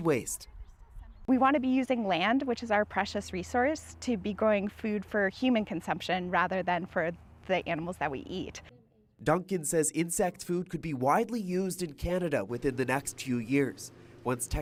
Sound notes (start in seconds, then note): none